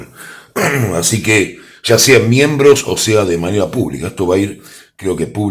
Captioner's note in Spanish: carraspeo